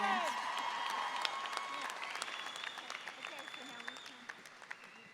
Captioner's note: audience cheering